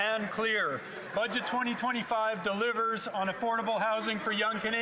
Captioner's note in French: voix de l'interprète